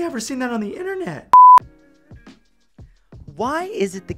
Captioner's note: beep